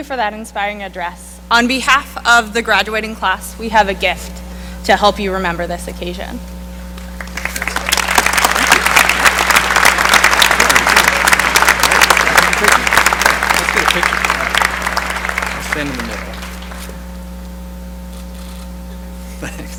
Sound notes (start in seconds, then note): 3.4 applause